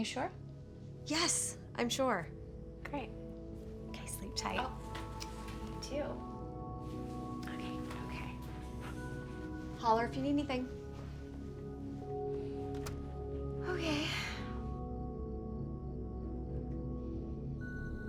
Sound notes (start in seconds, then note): 11.1 slow soft music; 13.6 sighs